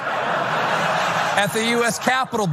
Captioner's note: laugh